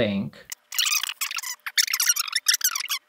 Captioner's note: tape squealing